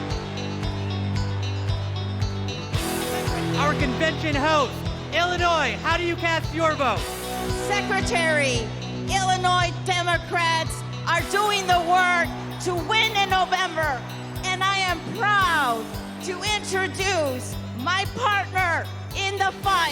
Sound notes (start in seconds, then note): 1.3 cheers and applause